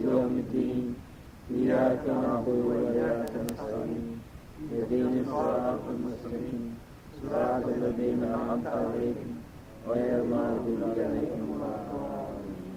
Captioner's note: foreign Language